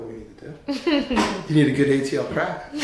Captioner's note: laughing